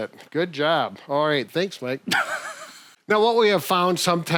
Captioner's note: laughs